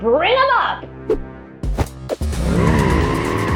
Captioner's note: thud; vroooom